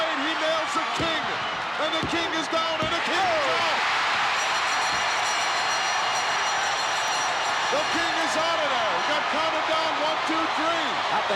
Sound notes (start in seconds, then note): 4.2 bell chimes; 4.6 audience cheering